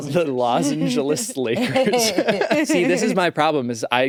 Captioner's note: laughs